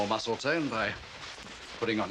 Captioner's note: rustling